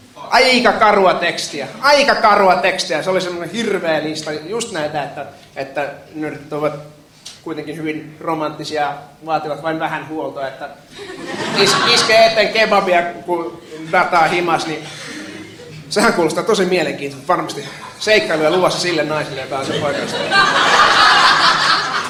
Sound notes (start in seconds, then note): 10.9 laughter; 19.6 laughter